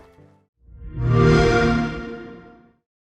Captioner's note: xbox sound; soft music playing